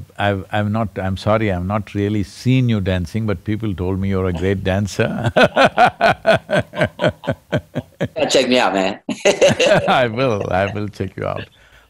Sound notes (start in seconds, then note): 0.0 laughs; 5.1 laughter